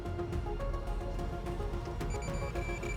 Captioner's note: beeping intensifies